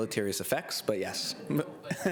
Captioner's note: laughter